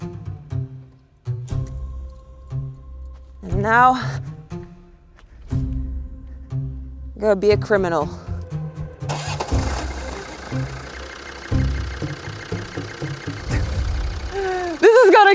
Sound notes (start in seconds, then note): 0.0 cheerful music; 9.0 revving engine loudly; 9.2 cheerful music